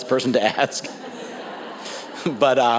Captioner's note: audience laughs